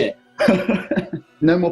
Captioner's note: laughing